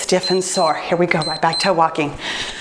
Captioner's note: timer beeps